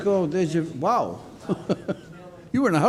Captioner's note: chuckles